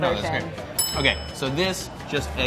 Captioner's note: bell dinging